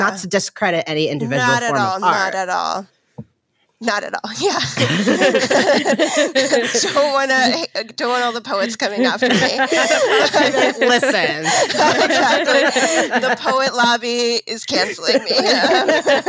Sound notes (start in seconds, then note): 4.7 all laughing; 9.2 more laughing